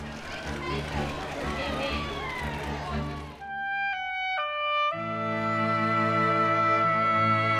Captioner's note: people chattering; gentle orchestral music